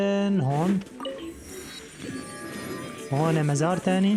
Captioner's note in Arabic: صفير الكمبيوتر